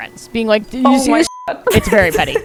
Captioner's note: beep